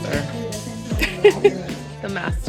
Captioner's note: laughs